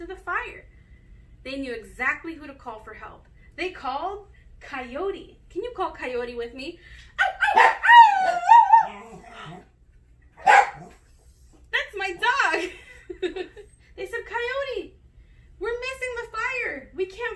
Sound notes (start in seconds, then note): 7.2 imitates coyote howl; 9.2 dog barks in background, gasps